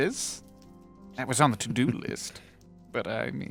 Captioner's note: chuckles